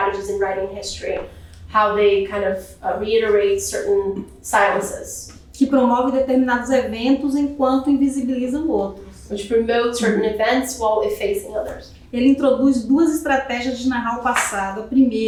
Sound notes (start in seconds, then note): 6.1 speaking portuguese; 12.8 speaking portuguese